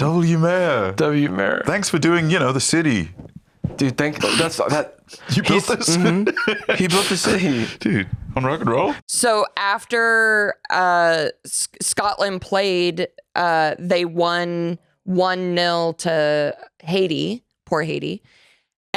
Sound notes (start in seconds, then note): 5.2 laughs